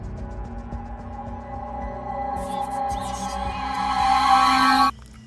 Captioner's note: dark riser and sound of shrieker